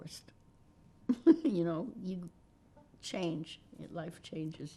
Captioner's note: laughing